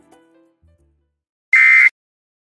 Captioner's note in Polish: Dźwięk alarmu